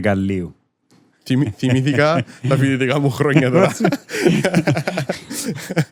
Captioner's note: laughter